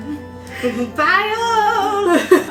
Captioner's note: laughs